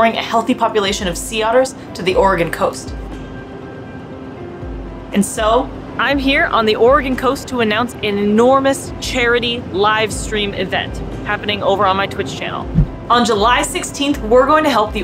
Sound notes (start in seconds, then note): 3.0 background music; 3.0 ocean sounds